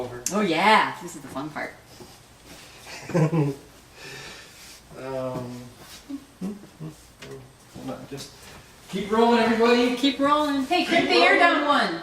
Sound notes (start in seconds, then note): 2.9 laughing